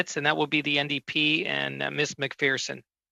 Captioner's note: speaking FRENCH